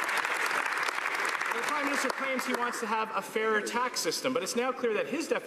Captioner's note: some Applause